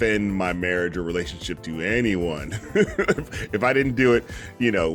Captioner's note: laughing